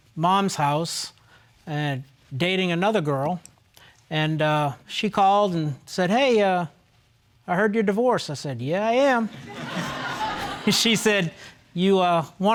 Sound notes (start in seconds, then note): 9.4 all laughing